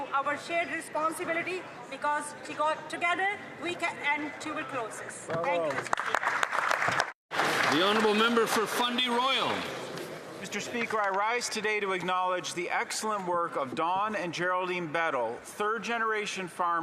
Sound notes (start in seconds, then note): 10.6 some Applause